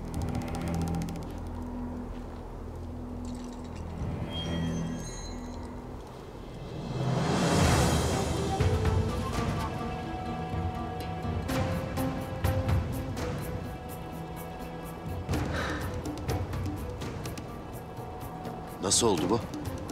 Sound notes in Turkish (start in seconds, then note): 15.4 Nefes sesi